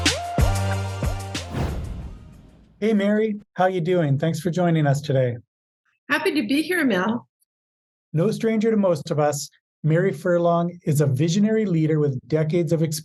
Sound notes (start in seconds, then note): 1.2 air whooshing